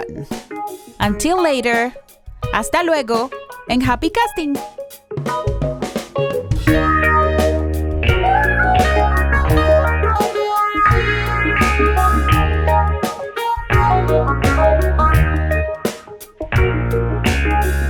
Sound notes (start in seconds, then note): 0.0 foreign language; 3.6 foreign language